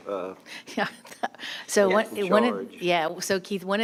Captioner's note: laughing